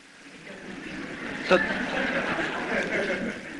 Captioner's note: laughter